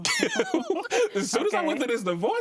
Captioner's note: laughs